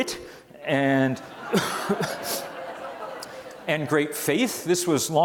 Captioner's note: audience laughs